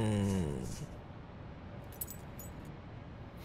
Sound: collar jingle

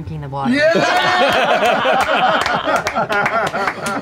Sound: the cast laughs

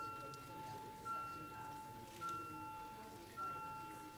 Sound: beeping

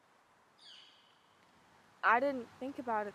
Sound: birds chirping

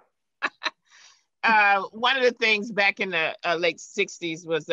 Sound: laughing

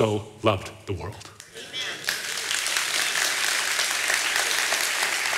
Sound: audience applauding

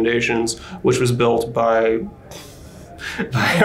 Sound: chuckles

